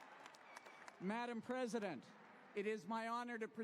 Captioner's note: applause